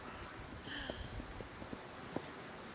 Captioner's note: gasping